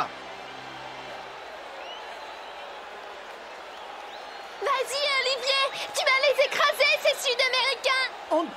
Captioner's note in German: beifall